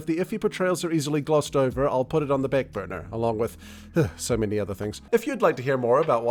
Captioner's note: sigh